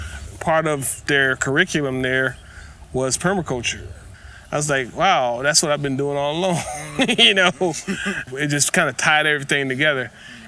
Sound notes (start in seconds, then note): 6.4 laughs